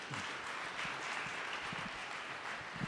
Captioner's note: audience applauding